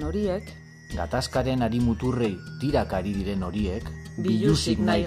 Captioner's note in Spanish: Voz de mujer; Voz de hombre